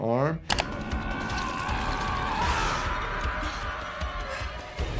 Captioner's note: character screaming